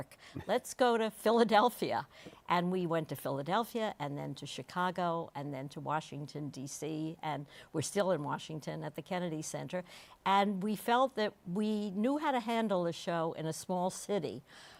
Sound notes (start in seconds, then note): none